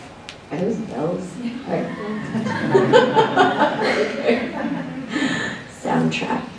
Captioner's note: laughs